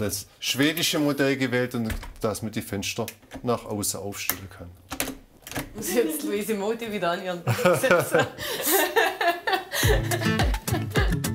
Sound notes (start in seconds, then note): 7.5 laughs; 9.8 curious music